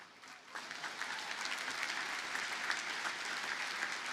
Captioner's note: audience applauding